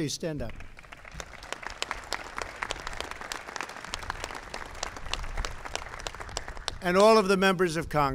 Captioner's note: applause